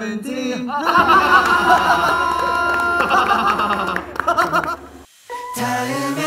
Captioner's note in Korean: 브레인의 웃음